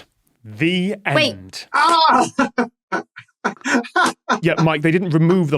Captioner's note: laughs